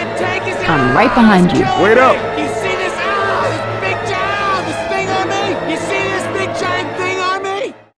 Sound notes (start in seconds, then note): 3.9 still screaming